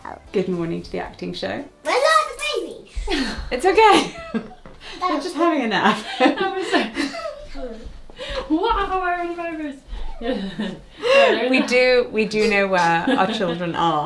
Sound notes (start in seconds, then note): 6.5 speaking faintly off mic